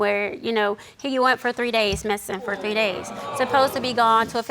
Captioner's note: audience gasping